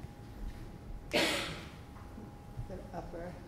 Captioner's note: person coughing